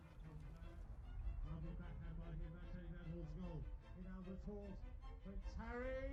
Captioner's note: sports announcer speaking softly; voiceover